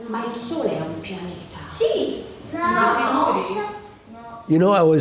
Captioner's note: teacher speaking in foreign language